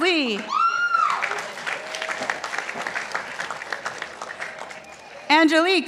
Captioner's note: participants applauding